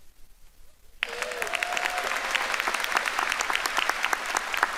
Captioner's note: audience applauding